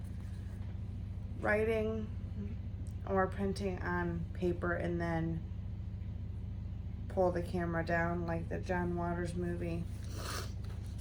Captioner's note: sniffles